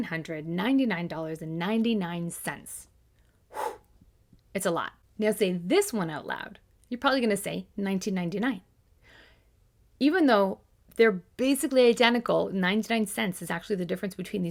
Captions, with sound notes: (exhales) It's a lot. Now say this one out loud, you're probably gonna say "1999." Even though they're basically identical, 99 cents is actually the difference